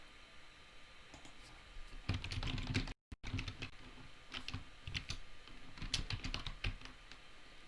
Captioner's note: keys tapping; mouse clicking